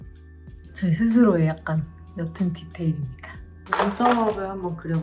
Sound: speaking in Korean

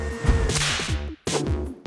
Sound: machines clacking and whirring

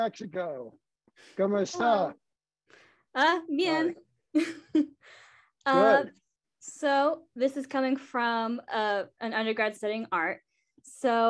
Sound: laughter

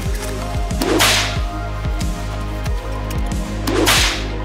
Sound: air cracking

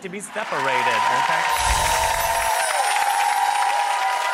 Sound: crowd cheers

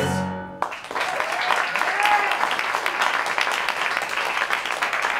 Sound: applause

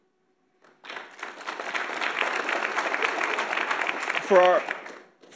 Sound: audience applauds

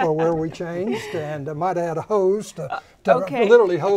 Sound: laughing

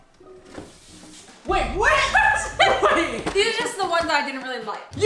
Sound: laughing

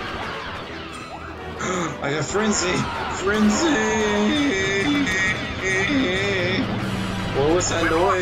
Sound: gasp

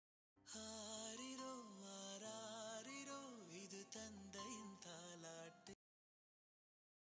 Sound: mobile Phone Ringing

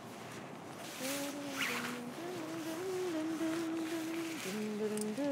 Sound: humming

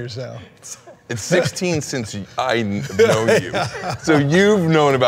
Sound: Ken laughing

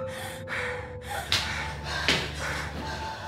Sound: gasping

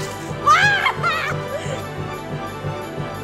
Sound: laughs hysterically; fast orchestral music

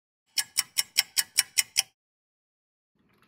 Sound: sound of a ticking clock

